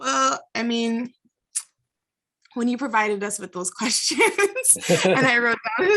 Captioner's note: laughs